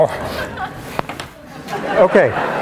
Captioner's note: laughter